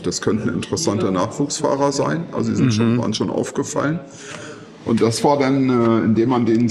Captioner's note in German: räuspern